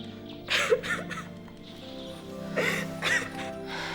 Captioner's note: Danni sobs